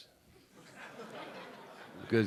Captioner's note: a few audience members laughing